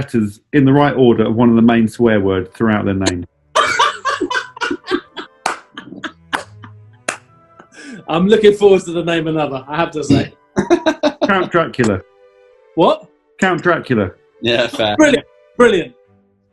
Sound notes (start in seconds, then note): 4.1 cackling and clapping; 10.6 laughing